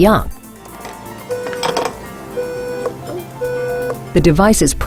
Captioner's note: beep sound